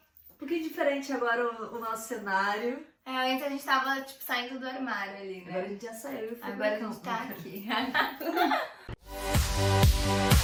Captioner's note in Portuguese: risos